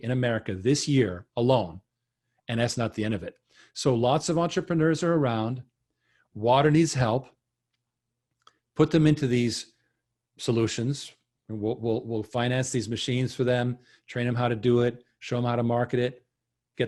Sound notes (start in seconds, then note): none